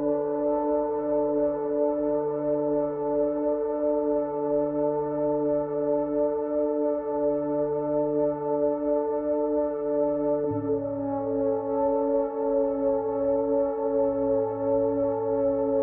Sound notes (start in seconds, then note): none